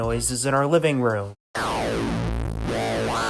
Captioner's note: ominous sci-fi noises